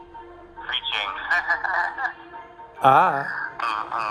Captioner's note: laughs